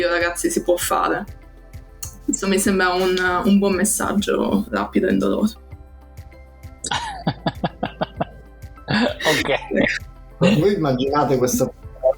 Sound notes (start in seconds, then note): 6.9 laughs